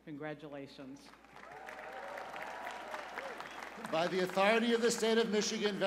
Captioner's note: cheers and applause